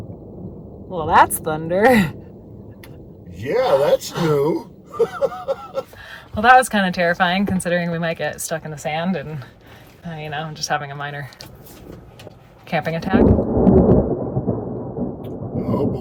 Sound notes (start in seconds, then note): 4.8 laughing; 13.1 thunder roaring